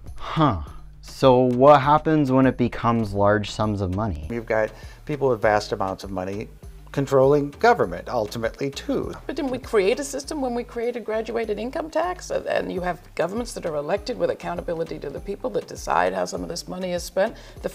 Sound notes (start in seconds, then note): none